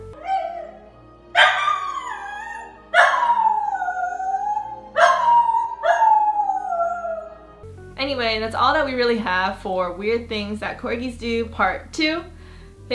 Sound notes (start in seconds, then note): 0.2 corgi whining; 1.3 corgi barking